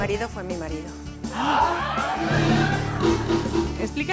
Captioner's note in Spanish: Público se sorprende